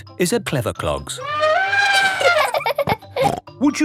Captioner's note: trumpeting; laughing